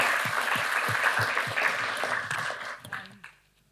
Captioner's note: applause